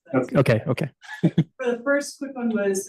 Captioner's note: chuckles